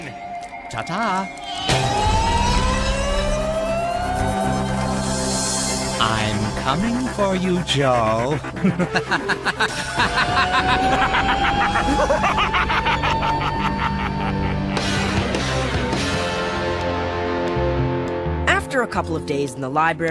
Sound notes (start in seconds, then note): 1.6 yelling; 8.2 wicked laughter